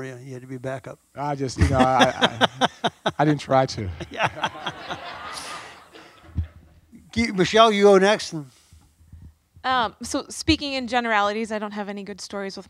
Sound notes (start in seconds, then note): 1.5 laughs; 5.7 audience laughs